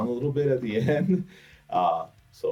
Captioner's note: chuckles